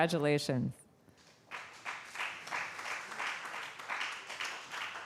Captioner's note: applause